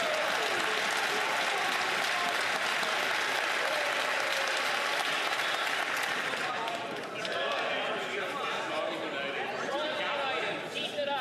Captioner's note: some Applause